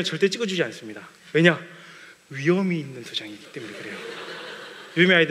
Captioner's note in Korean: 웃음